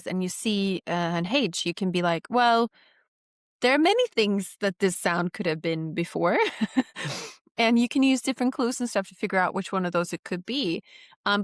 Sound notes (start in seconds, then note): 6.4 laughs